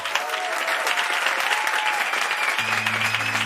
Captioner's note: applause